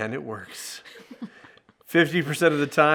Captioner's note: chuckles